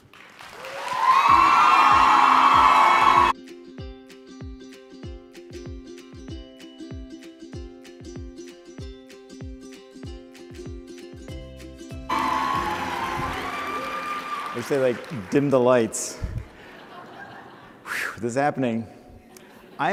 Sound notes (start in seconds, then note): 0.3 cheering; 2.6 lighthearted music; 12.1 applause; 16.4 laughter